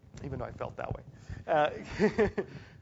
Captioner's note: laugh